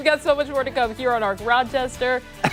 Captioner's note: laughter